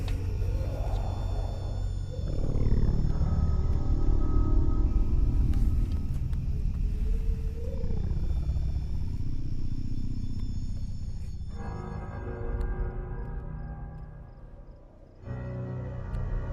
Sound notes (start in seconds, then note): 0.1 slow suspenseful music; 5.6 air quavering; 13.0 slow suspenseful music